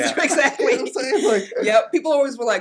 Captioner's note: laughs